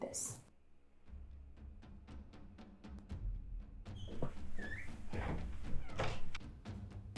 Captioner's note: dramatic music; door creaking